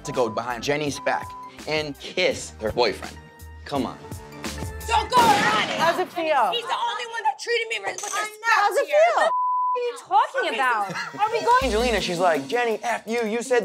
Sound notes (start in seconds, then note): 9.2 beep; 10.6 laughing